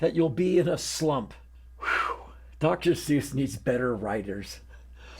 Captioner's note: sigh